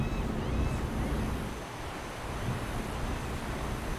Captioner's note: seabirds cawing